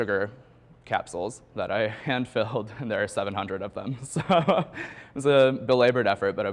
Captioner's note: chuckles